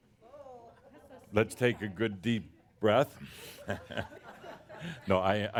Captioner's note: chuckles at audience responses